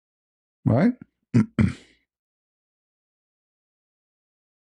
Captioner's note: clears throat